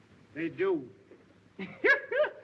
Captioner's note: laughter